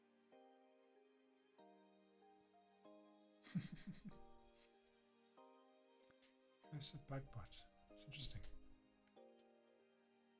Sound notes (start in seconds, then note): 3.4 laughs